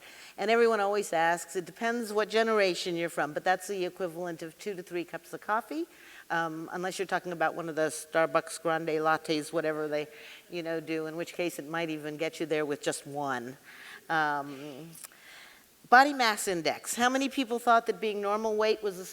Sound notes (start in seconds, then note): none